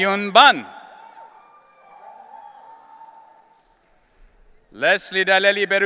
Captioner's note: audience cheering